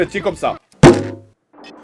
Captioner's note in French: Bump